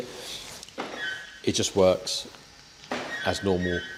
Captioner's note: alarm bleep